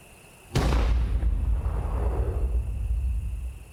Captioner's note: gun fires